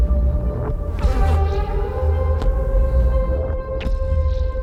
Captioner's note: fly buzzing